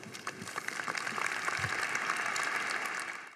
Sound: crowd applauding

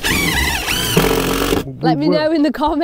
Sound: drill whirring

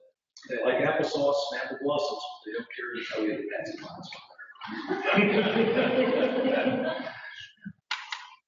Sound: laughter

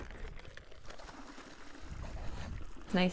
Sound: liquid pouring

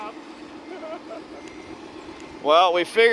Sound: laughs

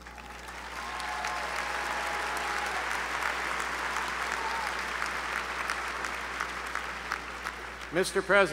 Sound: applause

